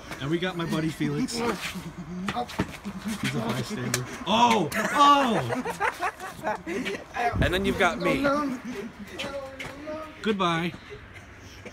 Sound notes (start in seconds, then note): 3.8 smack; 4.6 laughing